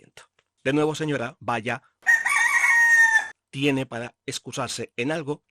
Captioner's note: rooster sound